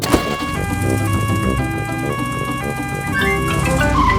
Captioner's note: siren wails